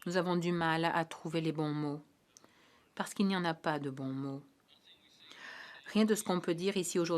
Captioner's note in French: voix de l'interprète